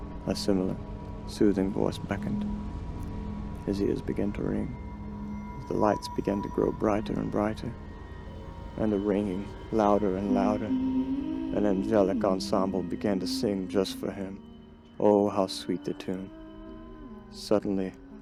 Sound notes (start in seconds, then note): 11.8 ethereal ringing; 16.9 ethereal singing